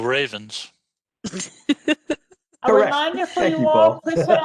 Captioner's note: laughter